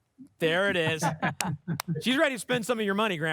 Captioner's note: laughter